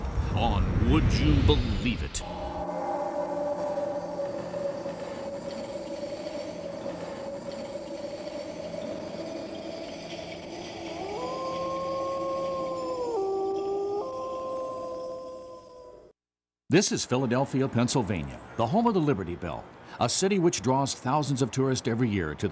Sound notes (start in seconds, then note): 3.7 eerie noises; 11.4 wolf howling